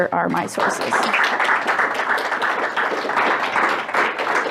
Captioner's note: audience clapping